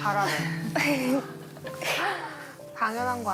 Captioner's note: laughs